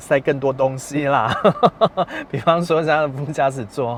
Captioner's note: laughs